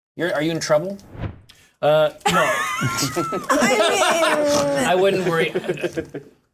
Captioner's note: laughter